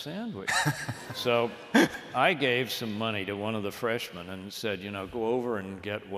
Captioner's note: laughter